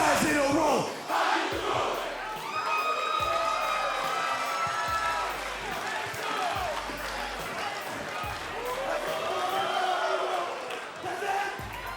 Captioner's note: crowd cheering